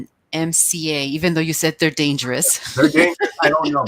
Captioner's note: chuckles